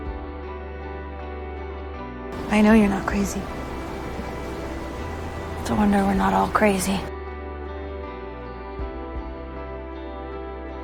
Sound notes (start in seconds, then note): 2.5 voiceover; 5.8 voiceover